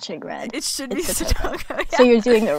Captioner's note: laughs